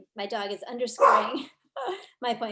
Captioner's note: dog barks; chuckles